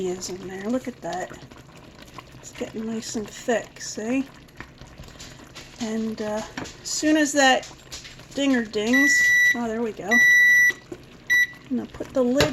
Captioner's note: beep beep